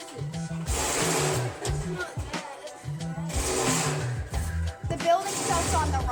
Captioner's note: drilling